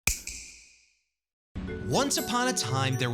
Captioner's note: snap